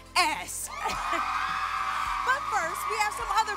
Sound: cheering

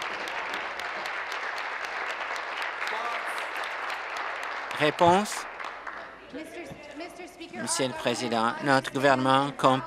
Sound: applause

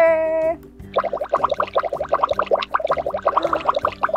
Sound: bubbling

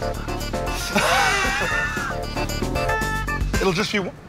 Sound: laughs

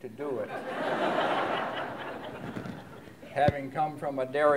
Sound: laughter

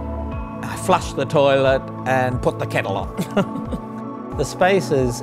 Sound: laughs

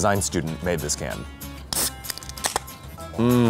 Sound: can opening

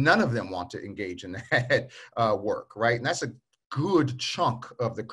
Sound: chuckles

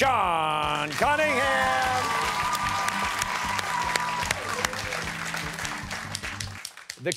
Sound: cheers and applause

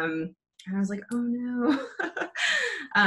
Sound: chuckles

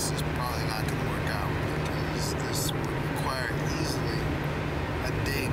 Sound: none

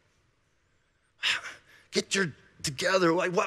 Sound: sighing

